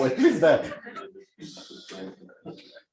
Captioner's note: laughter